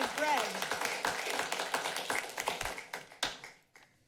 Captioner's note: applauding